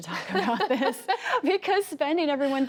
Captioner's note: laughter